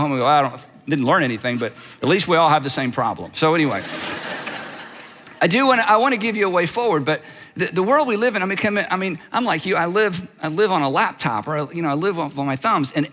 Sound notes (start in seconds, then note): 3.6 audience laughs